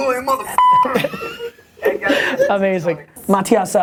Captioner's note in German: Lachen